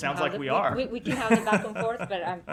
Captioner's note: laughter